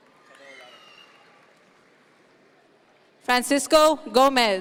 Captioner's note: audience members cheer